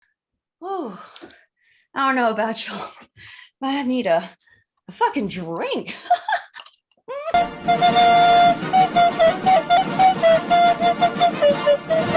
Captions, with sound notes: Oh... I don't know about y'all, but I need a... a fuckin' drink. (giggles)